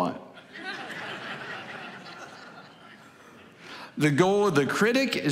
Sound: congregation laughing

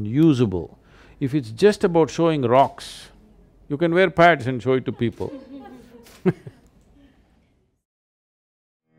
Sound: laughter

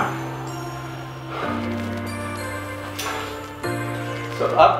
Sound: breathing heavily

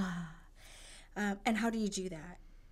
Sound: exhales

